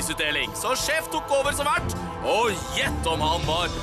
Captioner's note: none